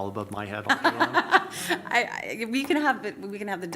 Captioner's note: laughs